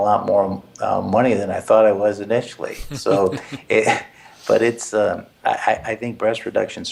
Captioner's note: laugh